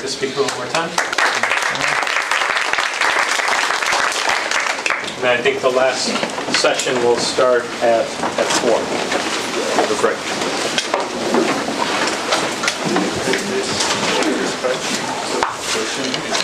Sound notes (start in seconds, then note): 2.6 applause; 10.3 background chatter